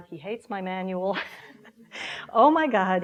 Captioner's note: laughing